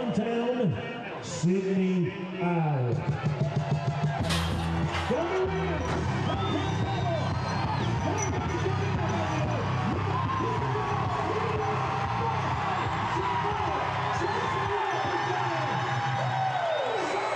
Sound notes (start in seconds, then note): 6.0 crowd cheering